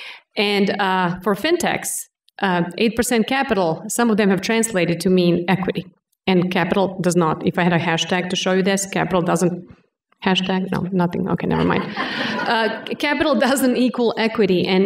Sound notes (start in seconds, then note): 11.5 laughter